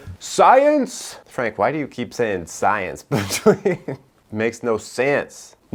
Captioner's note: laughs